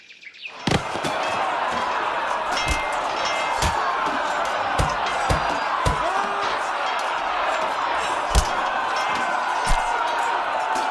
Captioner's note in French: Bruits d'épées et cris d'hommes